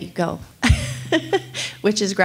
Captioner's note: laughs